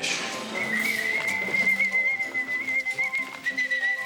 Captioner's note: whistle chirping